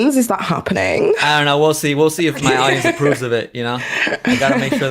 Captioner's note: laughs